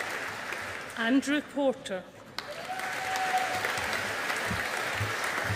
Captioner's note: audience applauding